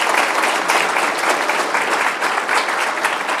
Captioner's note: applause